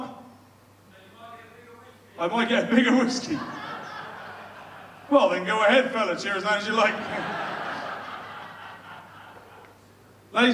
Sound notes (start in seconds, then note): 6.6 audience laughs